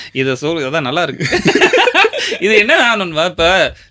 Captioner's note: laughter